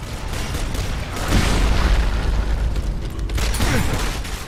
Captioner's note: guns shooting